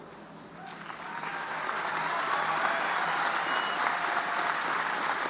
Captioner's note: audience applauding